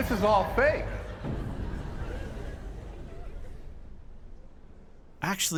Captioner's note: laughter dies down